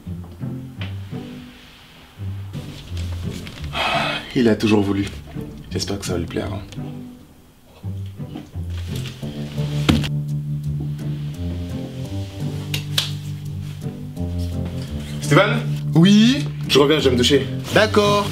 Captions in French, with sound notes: (soupir) il l'a toujours voulu j'espère que ça va lui plaire hein steven ? ouiiii. je reviens je vais me doucher. d'accooord